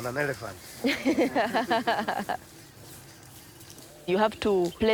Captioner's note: laughs